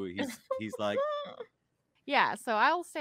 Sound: laughs

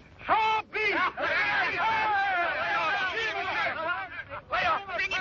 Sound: shouting

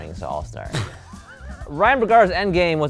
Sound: laughs

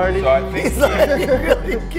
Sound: all laugh

